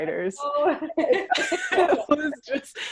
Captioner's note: laughing